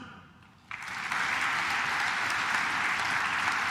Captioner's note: claps